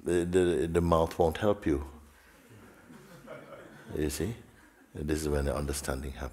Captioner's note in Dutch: gelach